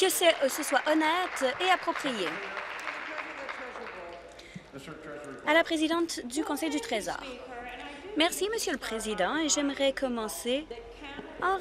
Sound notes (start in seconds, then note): 3.8 applause